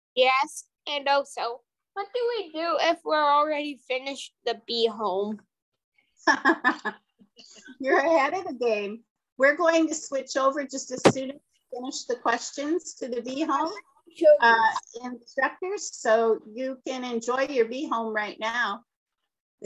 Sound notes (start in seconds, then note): 6.1 chuckling